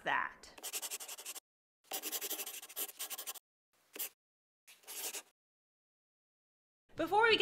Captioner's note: the sound of a pen scratching. LOGO